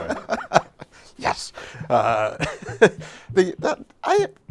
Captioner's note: laughs